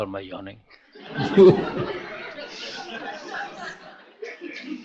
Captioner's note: master and audience laughter